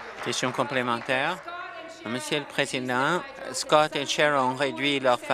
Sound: applause

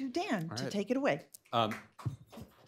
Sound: applause

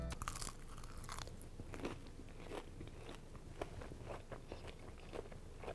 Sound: crunching and chewing

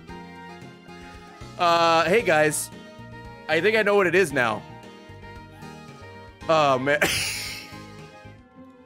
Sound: laughs

